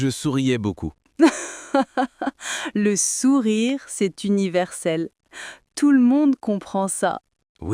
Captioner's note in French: rire